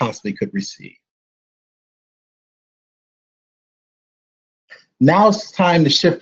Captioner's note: silence